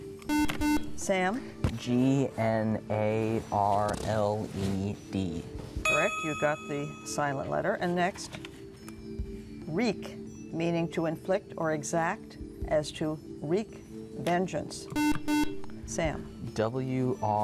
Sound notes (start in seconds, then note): 14.9 buzzer